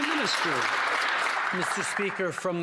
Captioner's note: some Applause